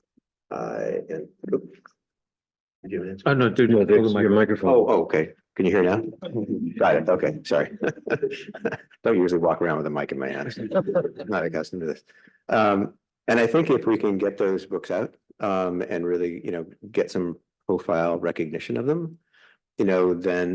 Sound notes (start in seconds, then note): 6.0 chuckling